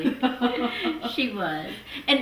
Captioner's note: laughs